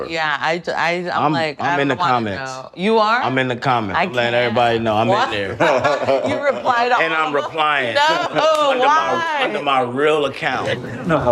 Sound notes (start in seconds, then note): 5.4 all laughing